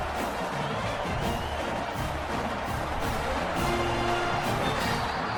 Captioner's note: crowd cheering